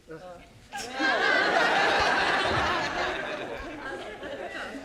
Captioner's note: audience laughing